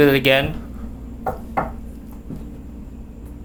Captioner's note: knocking; deep ominous music